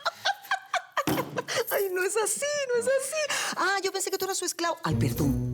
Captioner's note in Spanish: Risas